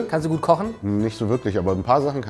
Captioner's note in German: none